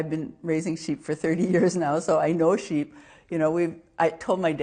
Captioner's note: laughs